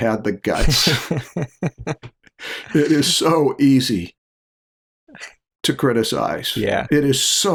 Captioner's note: laughter